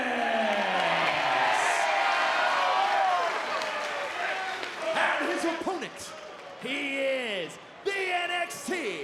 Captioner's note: applause